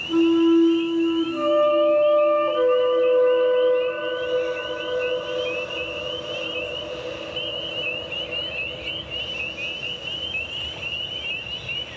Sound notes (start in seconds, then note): 0.1 gentle instrumental music; 6.0 frogs chirping